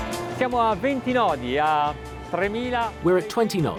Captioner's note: speaking Italian